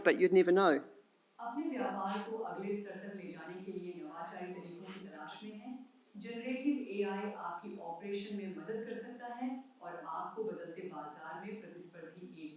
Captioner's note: avatar speaks Hindi